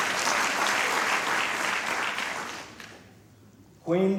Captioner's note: applause